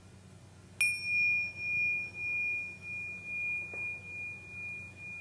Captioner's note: chimes clanging